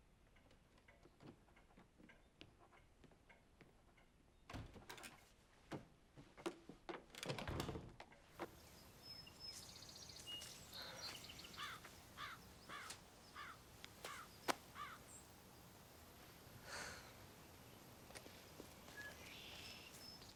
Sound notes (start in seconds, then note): 0.3 clock ticking; 9.3 birds chirping; 11.5 Matt sighs